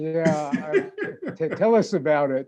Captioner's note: laughing